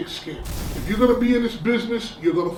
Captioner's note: crashing noise